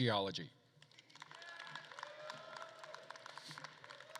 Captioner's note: attendees applauding; attendees cheering